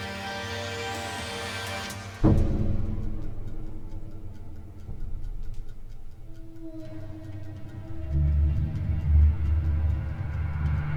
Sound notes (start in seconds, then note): 3.2 timer ticking; 8.0 dramatic music